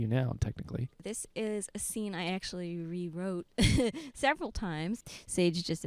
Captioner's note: laughing